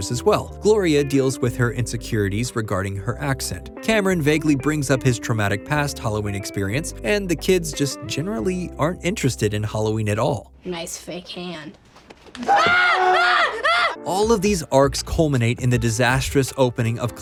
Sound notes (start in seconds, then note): 12.4 screaming